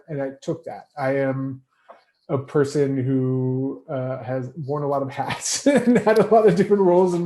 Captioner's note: laughs